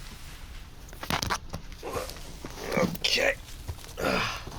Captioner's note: grunting